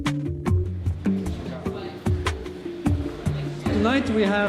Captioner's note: people talking